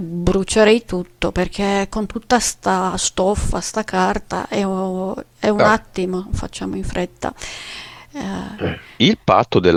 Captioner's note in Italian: schiarire la voce